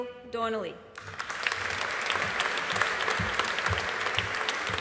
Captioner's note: audience applauding